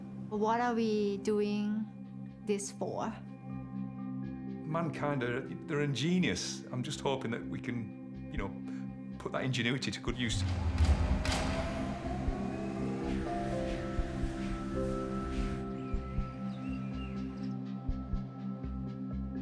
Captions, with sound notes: What are we doing this for? - Mankind, they're ingenious. I'm just hoping that we can, you know, put that ingenuity to good use. (birdsong)